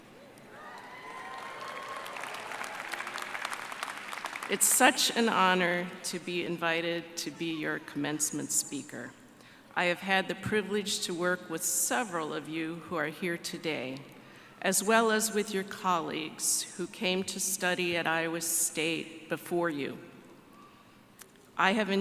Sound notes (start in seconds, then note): 4.7 applause